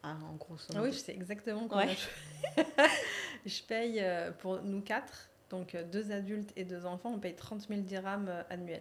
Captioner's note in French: rires